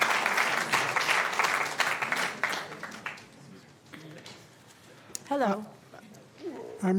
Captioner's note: applause